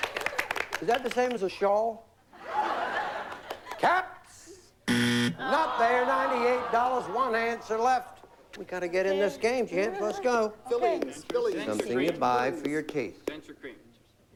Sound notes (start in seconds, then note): 2.3 laughter; 4.8 buzzer